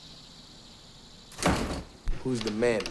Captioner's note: door slams